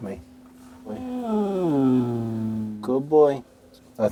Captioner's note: Elmo growling